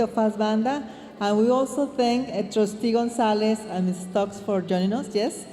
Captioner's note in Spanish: hablando en inglés